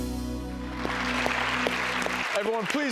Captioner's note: applause